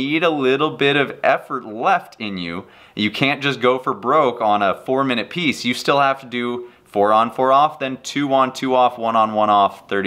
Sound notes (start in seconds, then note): none